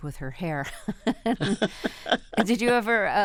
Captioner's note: laughter